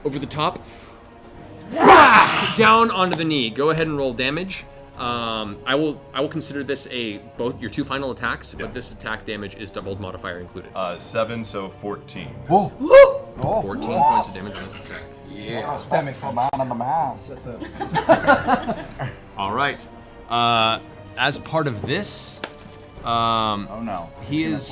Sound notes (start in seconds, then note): 0.7 whack; 12.3 cheering